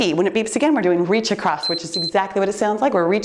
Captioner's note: timer beeps